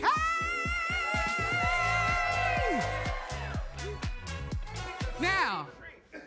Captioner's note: audience cheers and claps